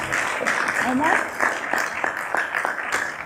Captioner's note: applause